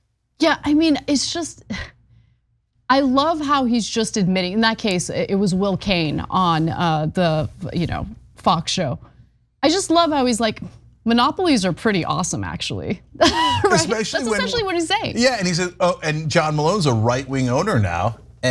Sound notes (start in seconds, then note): 13.2 laugh